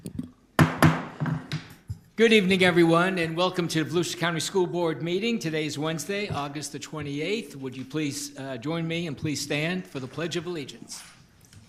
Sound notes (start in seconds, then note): 0.6 gavel banging